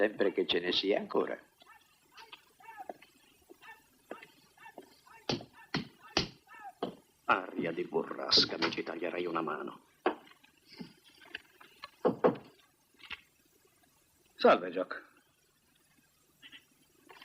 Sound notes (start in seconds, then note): 12.0 knocking